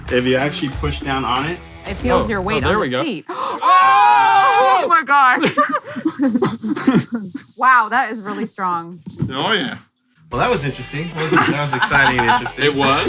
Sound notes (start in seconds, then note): 3.2 water squirting; 4.0 yelling excitedly; 5.3 laughs; 11.1 laughs